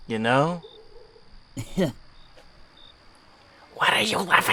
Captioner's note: Teen 01 quietly snickers